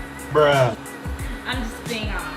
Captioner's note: male Voice